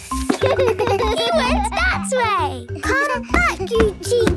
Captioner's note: giggles